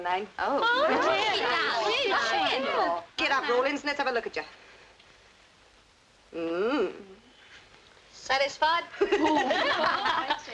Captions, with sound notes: [everyone exclaims] Get up, Rawlings, let's have a look at you. Mmm. Satisfied? [all laughing]